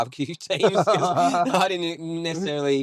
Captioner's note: laughing